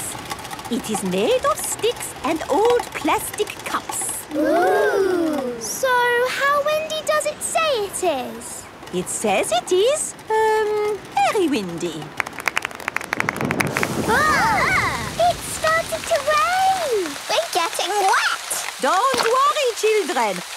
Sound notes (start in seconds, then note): 12.4 exclamations; 13.0 thunder